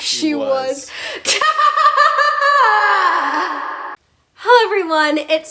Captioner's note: evil laugh